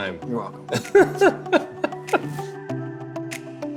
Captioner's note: both laughing; upbeat music